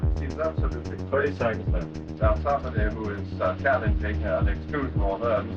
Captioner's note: 80s music; background chatter